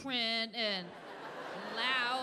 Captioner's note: audience laughing